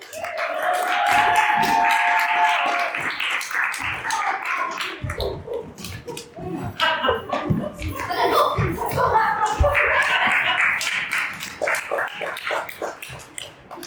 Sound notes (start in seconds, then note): 0.0 cheering; 6.4 laughter; 9.7 applause